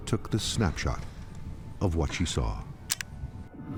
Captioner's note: shutter clicks